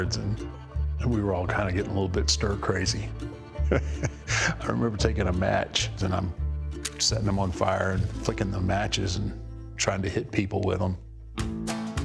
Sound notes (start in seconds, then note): 3.5 laughs